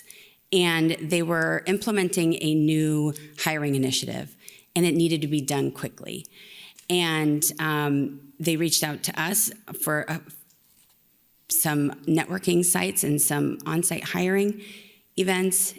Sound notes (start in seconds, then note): none